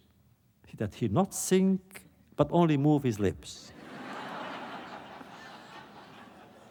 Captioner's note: laughter